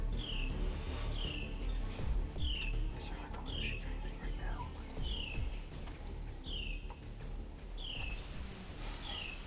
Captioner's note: whispering